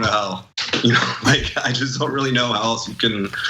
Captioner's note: laugh